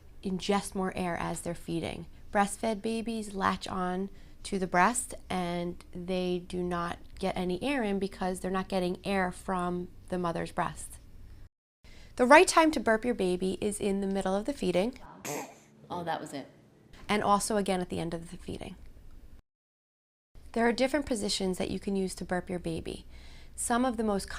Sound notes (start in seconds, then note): 15.2 burp sound